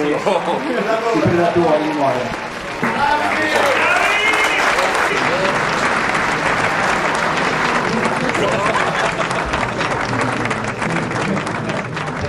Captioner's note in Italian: Applauso